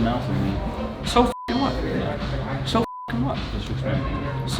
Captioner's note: beep